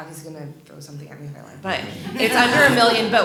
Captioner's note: laughter